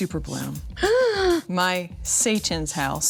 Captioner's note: inhales sharply